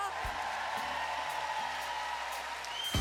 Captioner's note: cheering